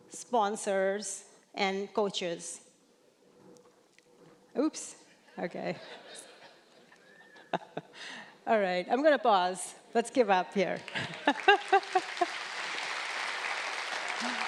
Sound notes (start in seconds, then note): 5.8 audience laughing; 10.8 audience clapping